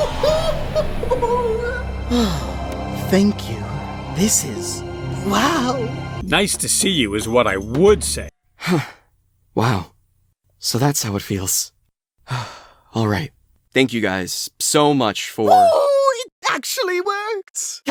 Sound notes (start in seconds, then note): 2.1 sigh; 12.2 sigh